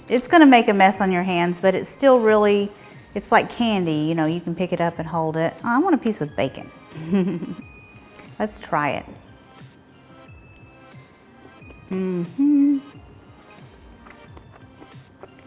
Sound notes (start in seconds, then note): 6.9 chuckling; 9.6 gentle music